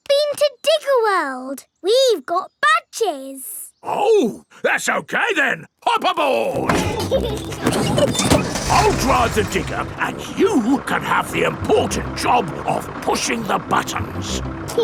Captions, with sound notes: But we've been to Digger World. We've got badges! Oh! That's okay then. Hop aboard! (PEPPA AND GEORGE LAUGHING) I'll drive the digger, and you can have the important job of pushing the buttons.